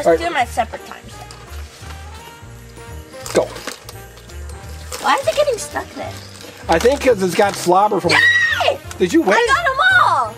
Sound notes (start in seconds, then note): 8.0 assistant screams with joy